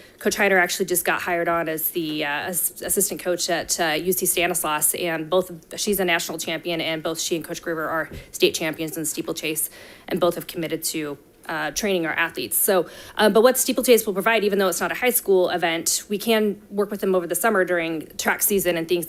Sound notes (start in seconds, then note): none